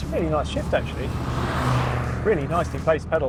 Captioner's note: car roaring